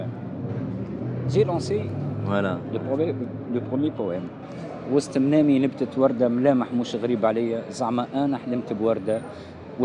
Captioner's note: in Arabic